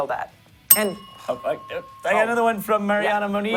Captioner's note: bell rings